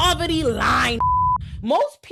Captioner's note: beep